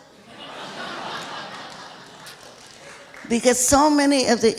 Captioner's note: laughing